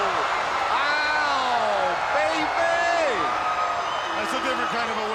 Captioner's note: crowd cheering